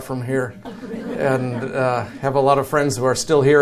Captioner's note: audience chuckles